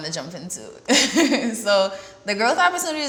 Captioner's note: laughs